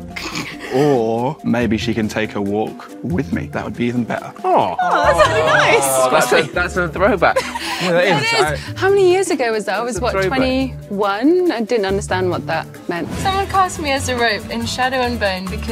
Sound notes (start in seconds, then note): 0.2 group snickers; 4.6 Jessie laughs